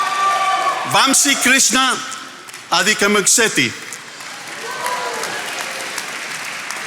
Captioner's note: attendees applauding